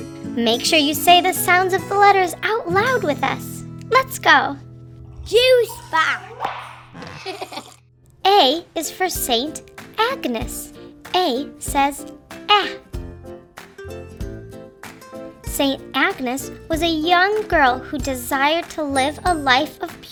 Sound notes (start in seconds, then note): 6.9 child laughs; 12.6 bright music